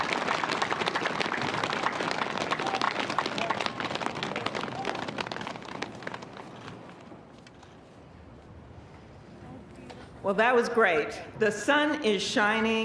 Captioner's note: applause